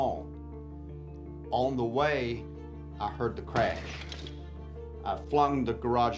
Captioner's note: stones crumbling